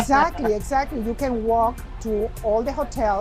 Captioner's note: laughs